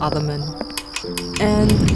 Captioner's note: click